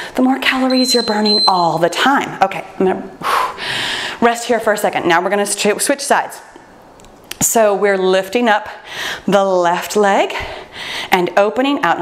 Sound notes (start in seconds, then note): 0.6 timer beeps; 3.3 sighs